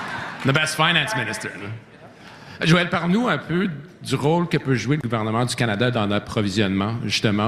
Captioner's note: applause